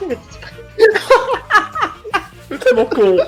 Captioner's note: laugh